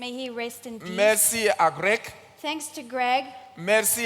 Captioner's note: continues in French